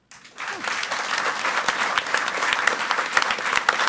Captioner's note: audience applauds